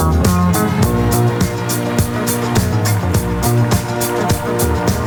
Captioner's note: applause